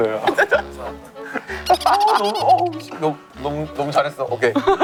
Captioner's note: laughing